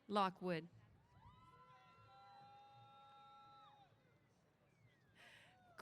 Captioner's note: cheers